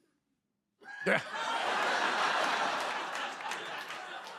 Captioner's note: laughter